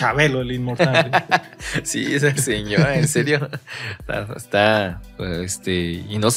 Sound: laughs

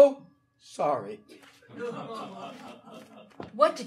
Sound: audience laughing

